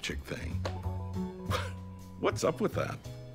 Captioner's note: chuckles